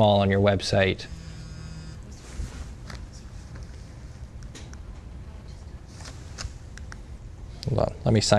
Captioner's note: phone vibrating